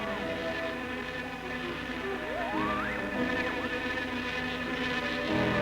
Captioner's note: buzzing; whistling